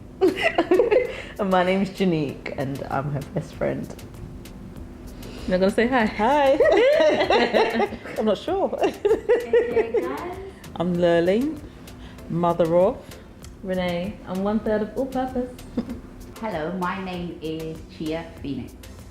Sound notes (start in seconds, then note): 0.3 laughing; 6.5 both laughing